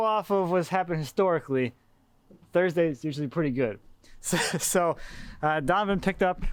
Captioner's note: laughs